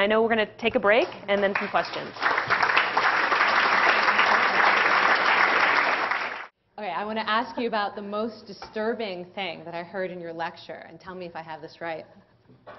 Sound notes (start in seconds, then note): 1.3 applause; 1.3 掌聲